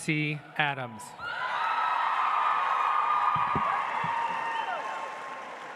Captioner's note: audience applauds